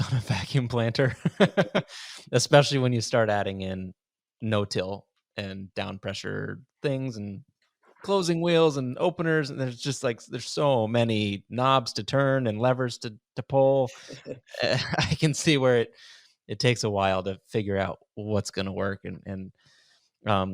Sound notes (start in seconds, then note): 1.2 laughs; 13.9 laughs